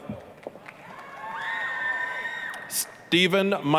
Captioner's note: applause, cheering